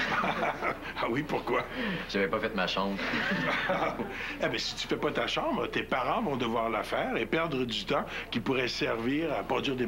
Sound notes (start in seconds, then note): 0.0 Rires; 3.0 Rires